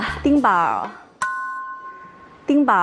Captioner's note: ding